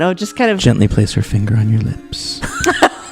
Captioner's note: laugh